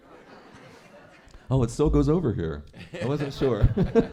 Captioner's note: laughter